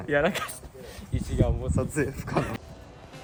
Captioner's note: laughs